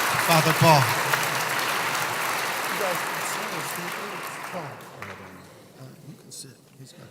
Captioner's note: applause